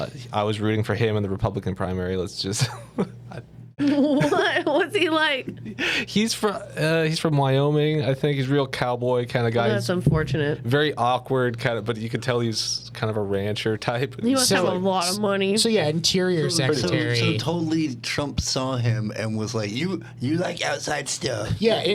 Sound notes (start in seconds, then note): 3.8 laughing